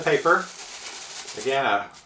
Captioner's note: paper rustling